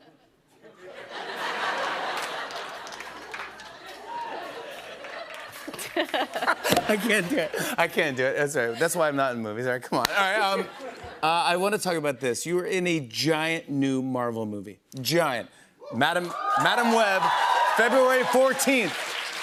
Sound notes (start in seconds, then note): 0.9 laughter; 5.4 both laugh